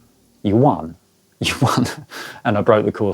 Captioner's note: laughing